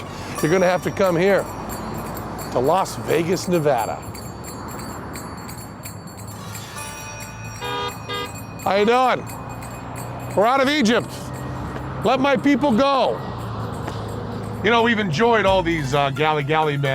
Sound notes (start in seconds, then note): 3.8 chimes; 6.6 traffic noise